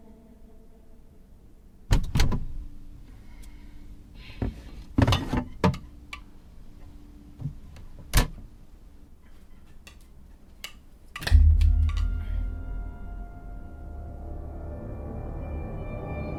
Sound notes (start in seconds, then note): 1.9 door clicks; 4.9 doll clattering; 11.2 doll thuds; 11.2 eerie dramatic music